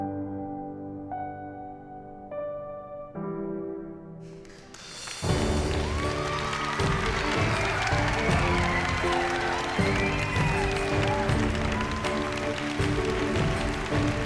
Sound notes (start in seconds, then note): 5.1 applause; 7.6 cheering; 10.1 upbeat music